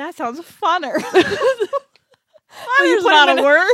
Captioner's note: laughs